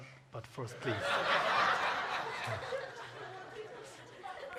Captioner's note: audience laughs